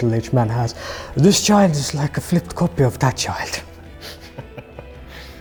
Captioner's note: laughter